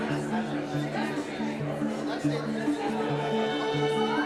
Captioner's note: calm music; visitors chatting